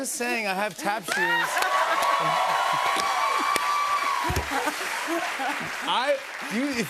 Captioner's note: cheers and applause; laughs